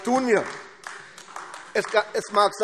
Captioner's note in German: Beifall AfD